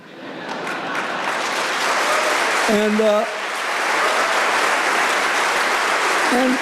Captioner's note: laughter, applause, and cheering